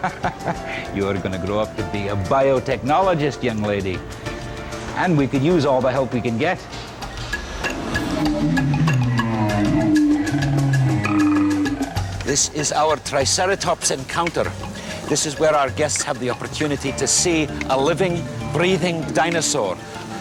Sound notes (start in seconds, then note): 7.6 dinosaur roaring